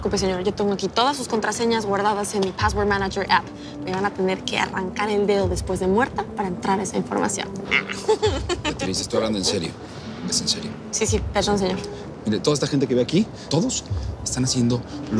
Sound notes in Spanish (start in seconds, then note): 7.7 Risas